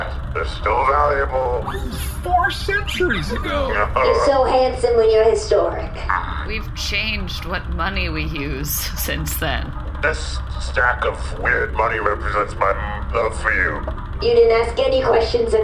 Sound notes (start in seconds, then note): 1.6 the Blazing Rochester chuckles